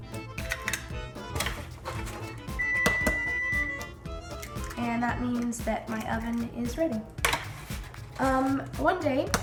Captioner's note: beep